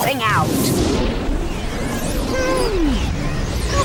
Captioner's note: crystal whirring